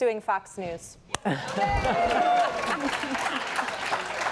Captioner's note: cheering, applause